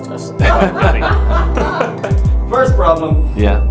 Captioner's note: laughing